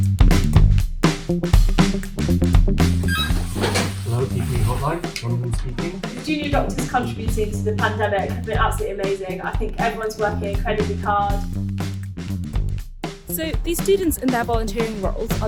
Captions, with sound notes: (lively music) (phone ringing) - Hello, PPE help line, Johnathan speaking. - With junior doctors contributed to the pandemic, they're absolutely amazing. I think everyone's working incredibly hard. So these students in their volunteering roles